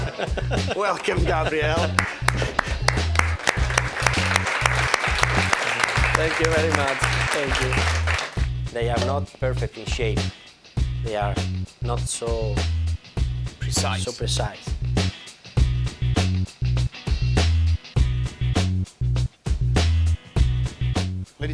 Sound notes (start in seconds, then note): 0.3 laughing; 1.8 applause; 16.5 mellow funky music